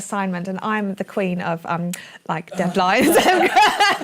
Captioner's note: laughing